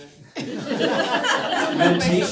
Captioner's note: laughter